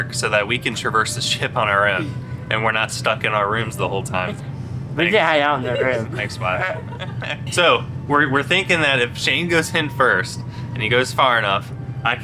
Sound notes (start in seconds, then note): 5.4 chuckles